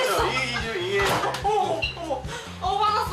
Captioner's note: bang~!